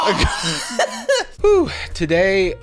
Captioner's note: laughing